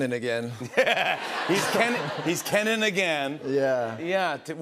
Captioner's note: laughs